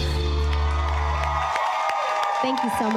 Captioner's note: audience cheering